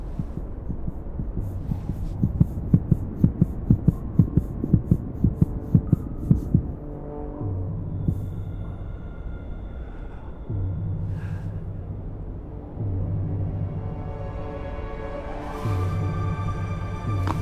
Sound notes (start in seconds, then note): 11.2 gasp; 12.8 dramatic orchestral music